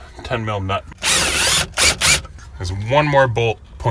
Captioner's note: drill torquing